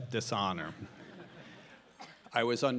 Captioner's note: audience laughing